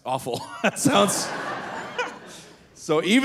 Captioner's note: audience laughing; laughs